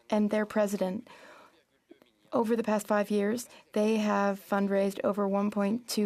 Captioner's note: speaking French